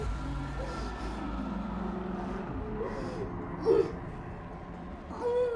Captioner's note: Kathy crying faintly